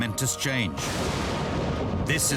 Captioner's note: thunder